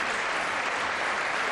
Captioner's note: applause